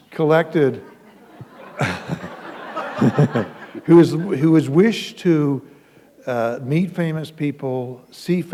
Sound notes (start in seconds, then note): 0.6 laughter